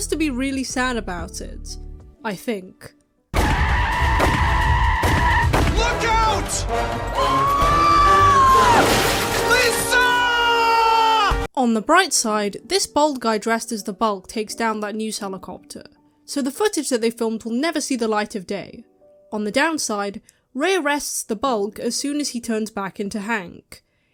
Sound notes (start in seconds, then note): 3.3 gunshots; 6.6 scream + crashing